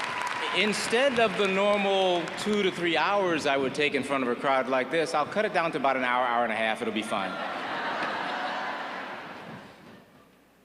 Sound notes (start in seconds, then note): 2.4 applause